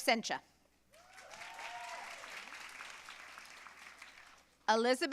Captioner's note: audience cheering and applauding